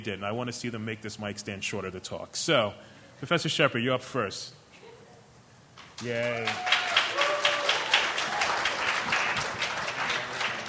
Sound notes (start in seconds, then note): 5.9 applauding